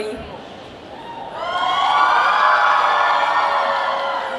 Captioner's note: BIG cheers